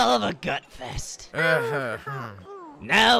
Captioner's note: they grumble uncomfortably